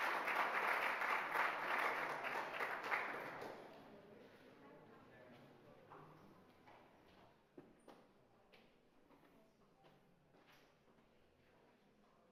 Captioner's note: cheering and applauding